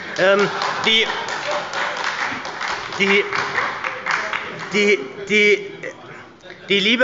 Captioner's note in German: Heiterkeit und Beifall bei der SPD